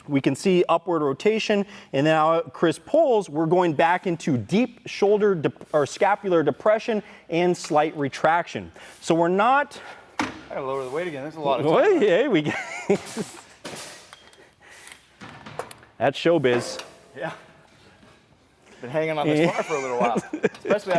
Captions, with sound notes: We can see upward rotation and now as Chris pulls, we're going back into deep shoulder or scapular depression and slight retraction. So we're not-- I got to lower the weight again. That's a lot. (laughing) That's show biz. Yeah. Been hanging on this bar for a little while,